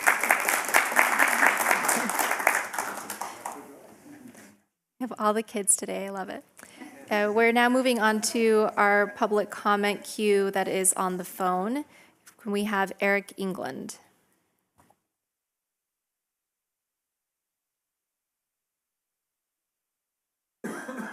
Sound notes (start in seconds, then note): 3.8 applause